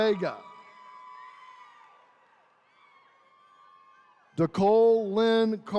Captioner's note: attendees cheering